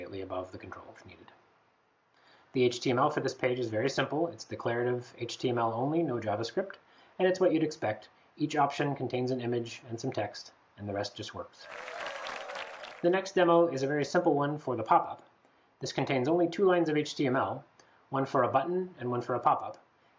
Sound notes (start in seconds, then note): 11.6 applause